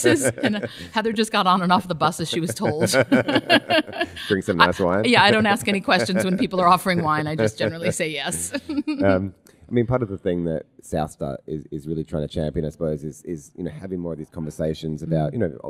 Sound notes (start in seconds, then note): 1.9 both laugh; 8.6 laughs